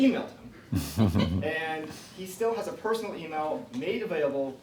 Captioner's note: laughs